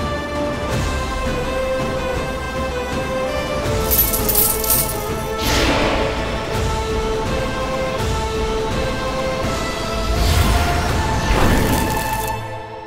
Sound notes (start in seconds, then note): 3.8 coins clinking; 9.8 sinister music playing